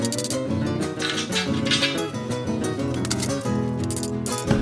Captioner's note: classical guitar music; hammer tinkering; classical guitar music